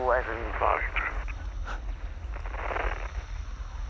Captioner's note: static pops